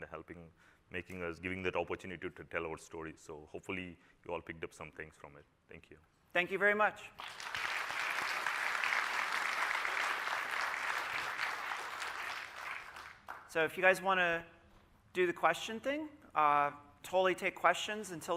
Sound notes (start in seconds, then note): 13.2 applause